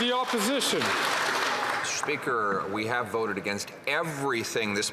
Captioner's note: some Applause